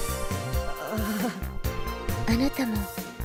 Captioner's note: awkward laugh